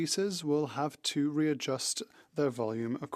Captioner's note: speaking French